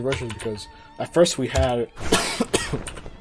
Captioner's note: loud cough